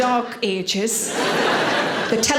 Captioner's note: audience laughing